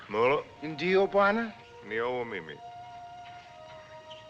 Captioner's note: both Speaking African Language